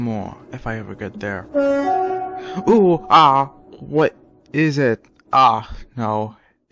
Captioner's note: A diesel horn blares in the distance